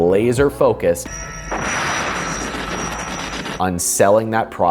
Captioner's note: laser zapping